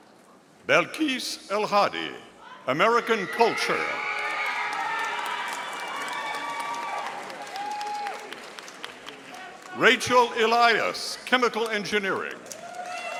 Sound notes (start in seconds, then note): 2.8 audience cheering; 12.3 audience applauding